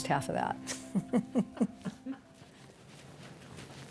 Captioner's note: women chuckling